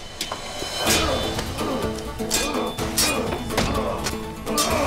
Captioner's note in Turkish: Müzik - Dombra; Kılıç sesleri; Boğuşma sesleri